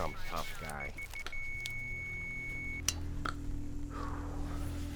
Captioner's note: hear rate monitor flatlines